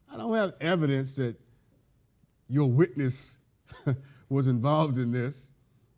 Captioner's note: chuckles